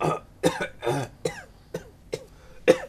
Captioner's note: coughing